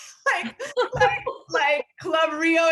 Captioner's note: laughing